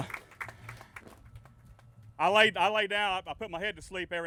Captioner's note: clapping